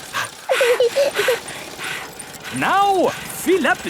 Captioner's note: daddy pig panting; mummy pig panting; peppa chuckles; chuckles